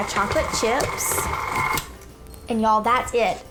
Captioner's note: mixer whirring